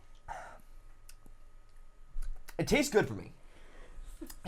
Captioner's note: licking lips